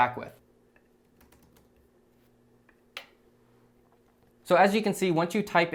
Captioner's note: keyboard clicking